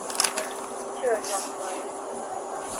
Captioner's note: radio chatter